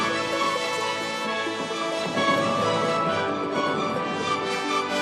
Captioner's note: heavy artillery booming